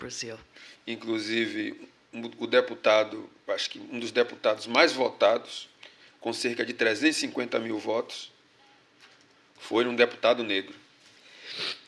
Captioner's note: speaking portuguese